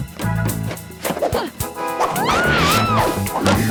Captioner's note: laughing